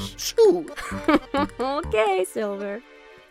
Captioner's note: cabby laughs